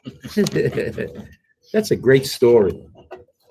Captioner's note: laughs